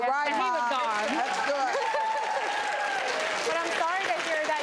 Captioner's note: applause